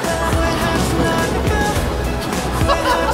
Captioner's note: bump